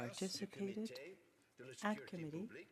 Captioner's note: speaking french